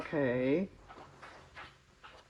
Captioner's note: none